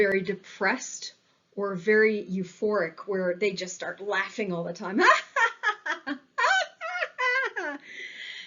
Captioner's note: hahahahahahahaha